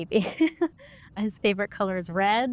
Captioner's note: laughter